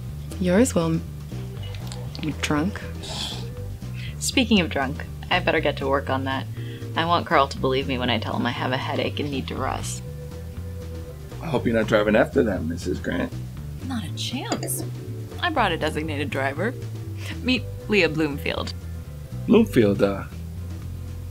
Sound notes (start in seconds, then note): 3.1 Naira laughs